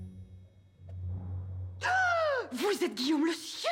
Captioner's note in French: exclamations